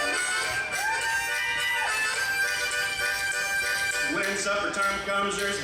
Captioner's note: audience cheers